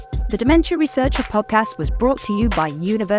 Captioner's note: voiceover